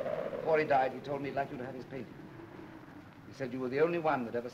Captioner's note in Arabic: none